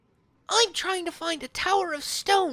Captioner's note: none